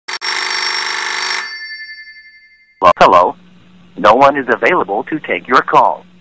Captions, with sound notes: (phone rings) Hello No one is available to take your call